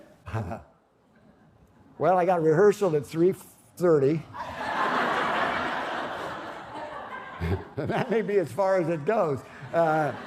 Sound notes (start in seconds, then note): 4.3 laughter